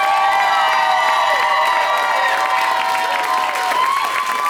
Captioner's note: audience cheers